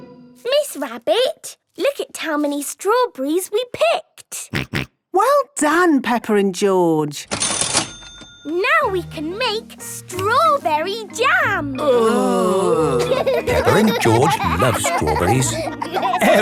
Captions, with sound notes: - Miss Rabbit, look at how many strawberries we picked! - Grunt, grunt. - Well done, Peppa and George! - (till rings) - Now we can make strawberry jam! - (groaning) - (laughing) - Peppa and George love strawberries.